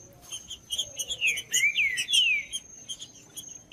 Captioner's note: trinca ferro cantando